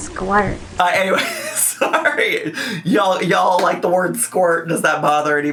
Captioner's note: laughs